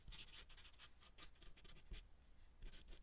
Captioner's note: ASMR drawing sounds